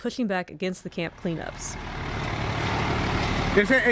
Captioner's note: truck engine roaring